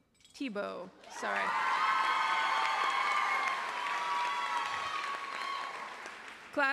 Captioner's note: applause